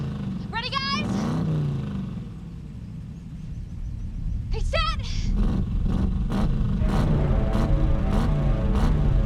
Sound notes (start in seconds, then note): 0.9 loud engine acceleration